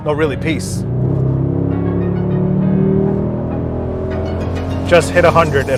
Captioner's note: upbeat music; engine revving